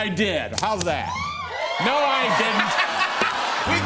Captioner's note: cheers and applause